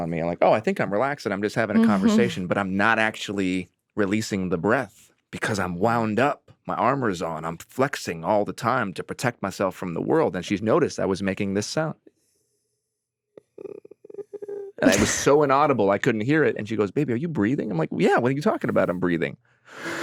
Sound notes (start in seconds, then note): 13.4 croaking softly